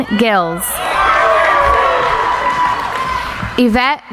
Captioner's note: cheering